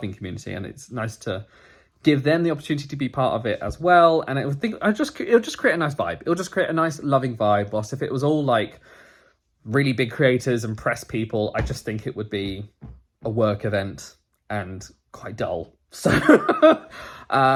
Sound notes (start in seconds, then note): 16.1 laughs